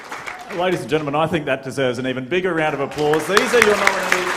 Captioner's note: applause